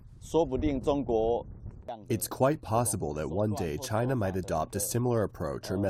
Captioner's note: through translator